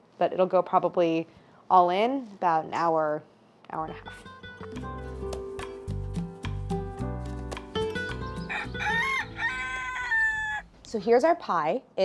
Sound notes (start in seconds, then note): 3.8 relaxing music; 8.4 rooster crowing